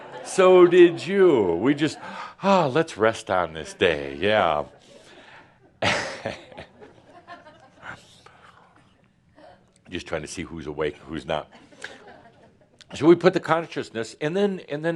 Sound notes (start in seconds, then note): 5.8 chuckles